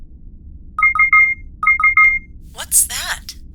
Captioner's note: beeps